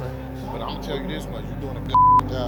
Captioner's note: beep